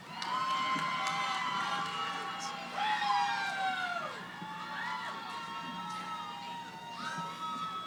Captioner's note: cheering